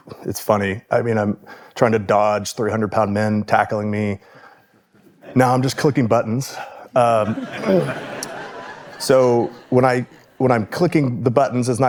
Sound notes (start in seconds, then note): 7.1 audience laughing